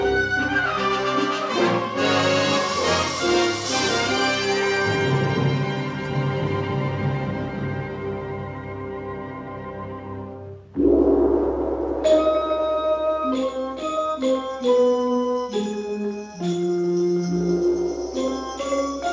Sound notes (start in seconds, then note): 10.8 gong thudding; 13.2 bright upbeat music